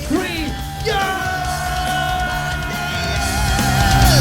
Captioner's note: scream